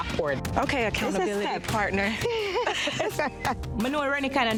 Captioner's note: laughs